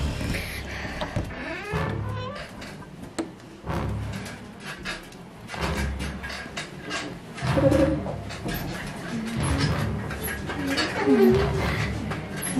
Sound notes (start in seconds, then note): 1.0 door squeaking